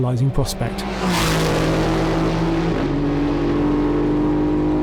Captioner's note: car engine blasting